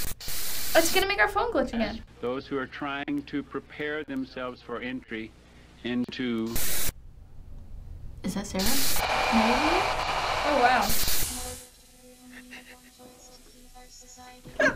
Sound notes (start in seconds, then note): 0.0 static; 5.8 static; 8.2 unsettling static; 11.0 eerie electronic voice speaking quietly